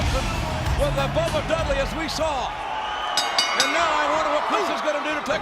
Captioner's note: bell dings